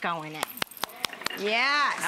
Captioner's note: Rachael applauds; audience exclaims